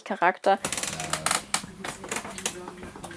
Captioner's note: creaks